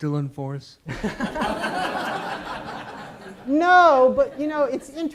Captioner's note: audience laughs